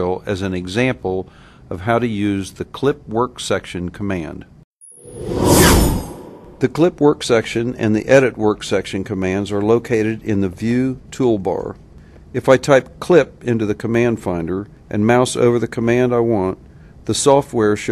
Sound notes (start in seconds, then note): 4.8 whoosh